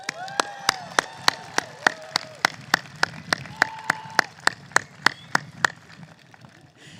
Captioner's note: applause